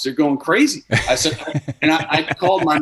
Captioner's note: laughing